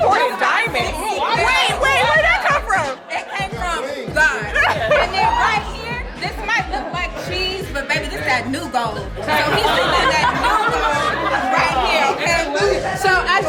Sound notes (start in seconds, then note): 4.2 laughs; 9.5 guests laugh